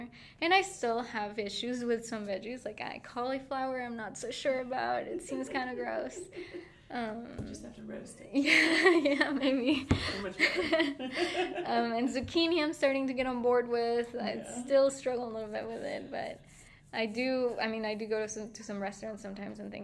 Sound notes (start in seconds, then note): 5.0 laughing; 8.9 laughing